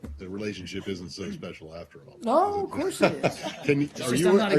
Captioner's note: laughter